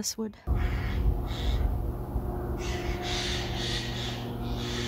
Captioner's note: bird call